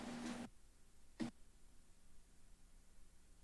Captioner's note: rustles